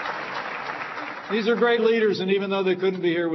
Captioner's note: applause